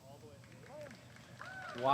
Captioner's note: applause